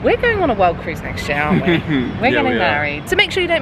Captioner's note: chuckles